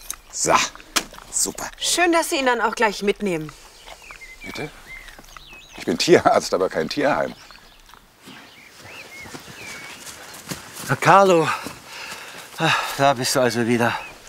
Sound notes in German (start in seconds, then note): none